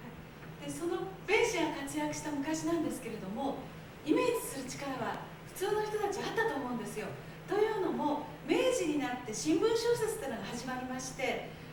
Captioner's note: speaking Japanes